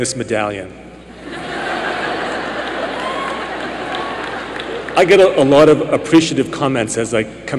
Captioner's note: laughter and cheering